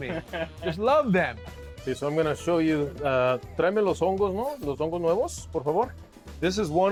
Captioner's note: speaking Spanish